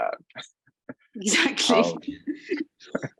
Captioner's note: laughing